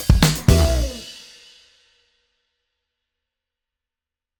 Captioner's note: music stops